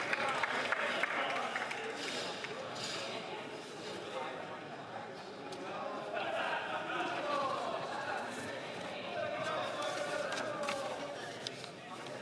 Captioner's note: applause